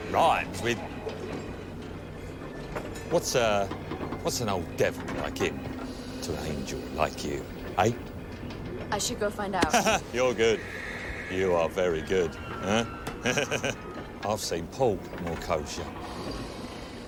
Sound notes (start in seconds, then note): 9.6 laughs; 13.2 laughs